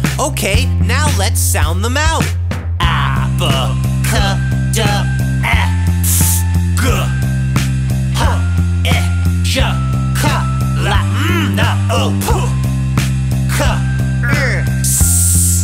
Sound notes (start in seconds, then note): 3.0 letter sounds